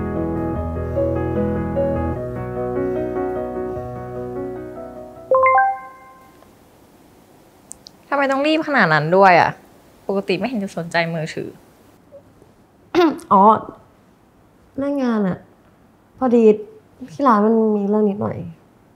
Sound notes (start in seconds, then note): 5.3 sound of text